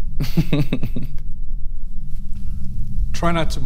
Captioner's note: laughs